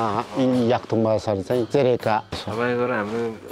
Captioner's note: limbu dialect